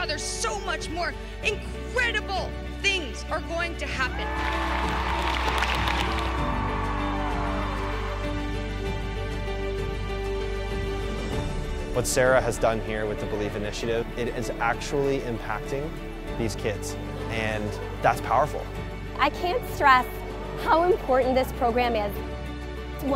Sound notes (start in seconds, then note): 4.1 audience cheers; 7.0 inspiring music